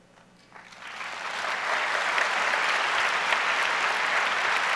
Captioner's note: audience applauds